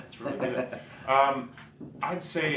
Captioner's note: chuckles